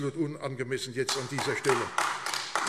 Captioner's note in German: Beifall AfD